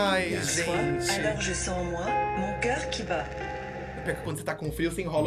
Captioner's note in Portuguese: narração em francês